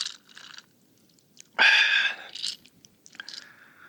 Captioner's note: slurped in delight